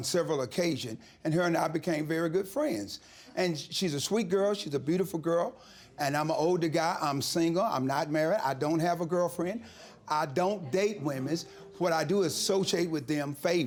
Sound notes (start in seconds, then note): 9.4 audience murmuring